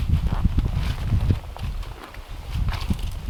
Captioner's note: wind howling